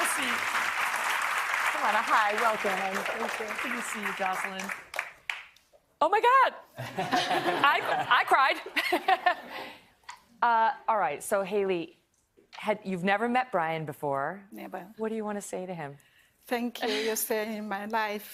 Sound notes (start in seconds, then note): 0.0 applause